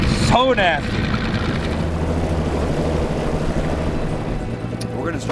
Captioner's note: engine revving